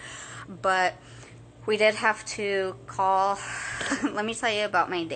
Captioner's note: chuckles